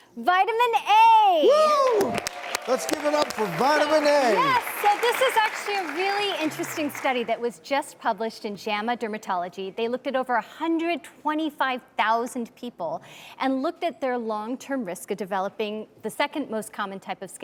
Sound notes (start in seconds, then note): 1.6 audience applauds